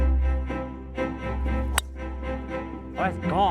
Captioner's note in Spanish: golpecitos de palo de golf